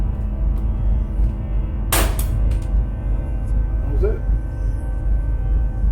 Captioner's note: metal thudding